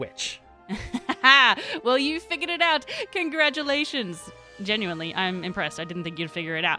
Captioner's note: evil laugh